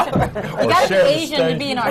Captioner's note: laughter